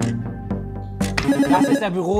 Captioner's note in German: Buzzer